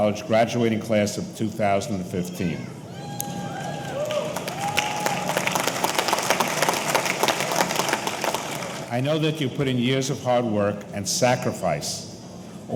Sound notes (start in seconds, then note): 2.8 audience cheering; 3.2 audience applauding